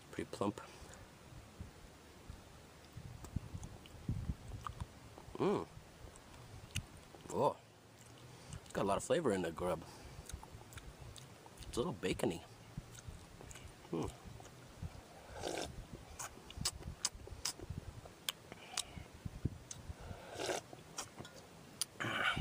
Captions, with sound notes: pretty plump mmm whoa a lot of flavor in that grub it's a little bacony hmm (slurping)